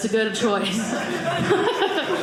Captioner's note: audience laughing